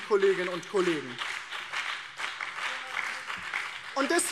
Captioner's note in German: Beifall